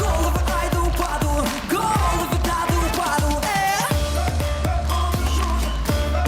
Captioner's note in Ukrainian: оплески